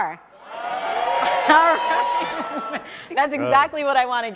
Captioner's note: audience cheering